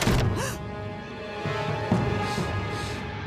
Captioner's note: gasps